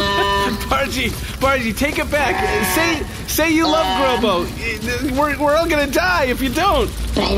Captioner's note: nervous